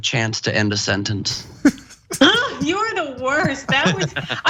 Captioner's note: laugh